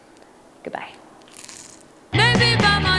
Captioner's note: crunching